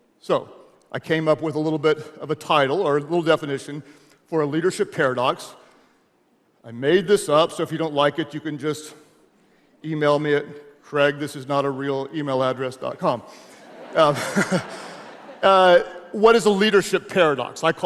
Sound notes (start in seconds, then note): 13.4 audience laughs; 13.7 laughs